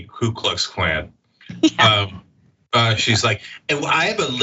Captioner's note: laugh